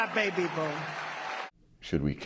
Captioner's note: cheering